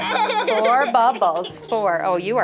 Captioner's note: student laughs